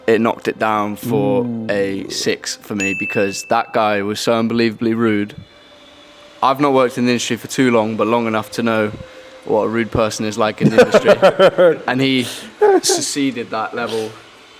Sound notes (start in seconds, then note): 2.8 graphic dings; 10.6 laughs